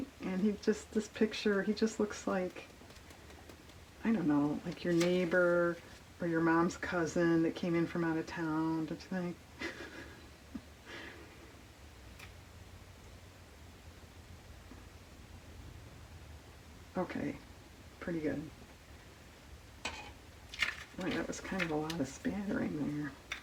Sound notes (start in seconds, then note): 15.0 laughs